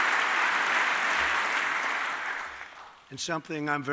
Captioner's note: applause